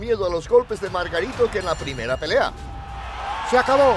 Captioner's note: bell dings